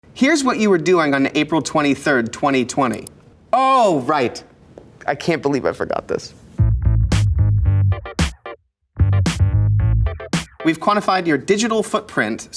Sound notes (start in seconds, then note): 2.7 remote clicks; 6.8 upbeat music